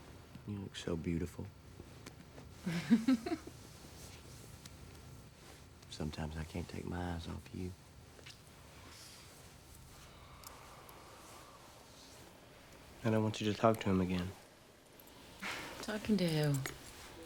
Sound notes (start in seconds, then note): 2.7 laughs